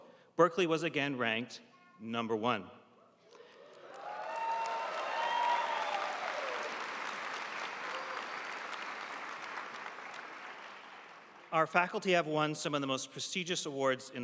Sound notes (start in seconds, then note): 3.5 audience cheering and applauding